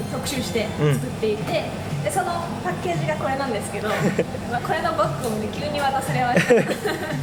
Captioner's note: laughs